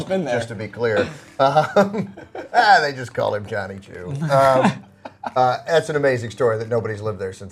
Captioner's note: laughing